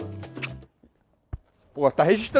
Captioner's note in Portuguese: som de beijo